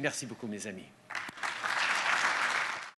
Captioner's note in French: Applaudissements